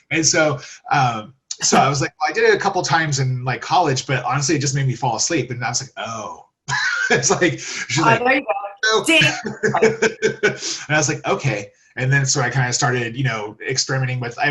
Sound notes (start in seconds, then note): 6.7 laughs